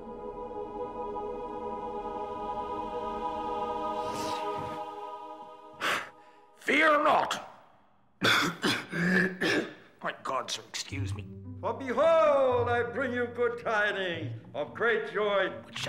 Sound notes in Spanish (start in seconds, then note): 0.0 música dramática; 5.7 respiración de pánico; 8.2 tosiendo